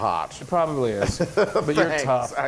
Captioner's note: laugh